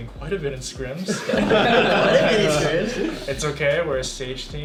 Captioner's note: all laughing